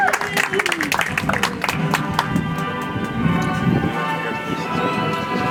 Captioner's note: audience applauds